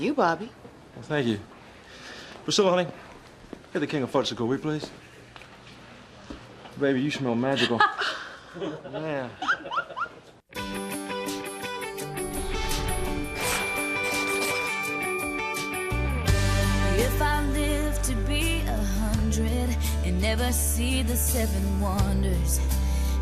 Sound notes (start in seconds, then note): 7.5 laughter